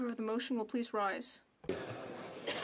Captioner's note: speaking French